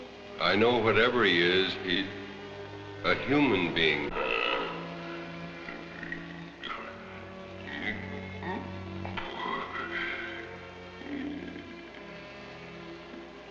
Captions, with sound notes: - I know whatever he is, he's a human being. (grunting) (speaking in a foreign language)